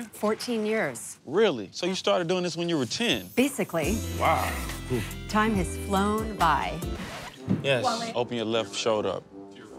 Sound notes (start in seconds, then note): 6.9 record scratch